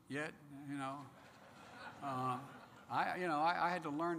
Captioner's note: laughter